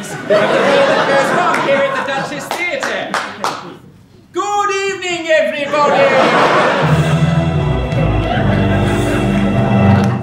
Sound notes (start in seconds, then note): 5.6 laughs; 6.2 dramatic music